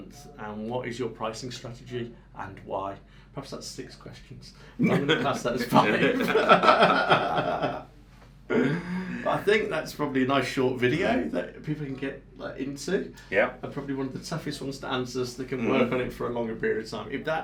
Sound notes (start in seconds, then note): 4.8 both men laugh; 6.9 men continue laughing